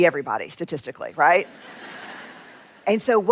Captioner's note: laughter